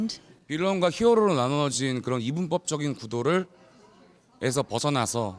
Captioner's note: speaks in a foreign language